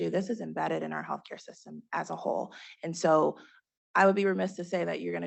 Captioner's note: none